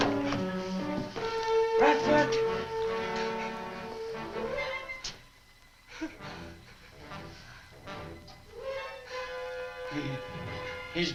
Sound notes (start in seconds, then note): 5.9 Marlowe gasps